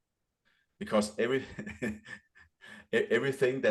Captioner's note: chuckles